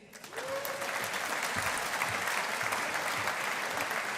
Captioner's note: audience applauding